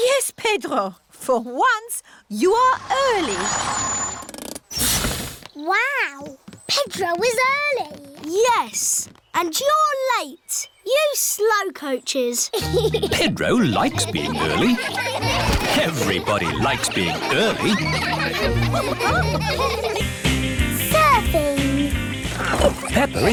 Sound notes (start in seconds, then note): 12.7 giggles; 15.5 laughter